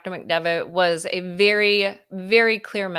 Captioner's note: none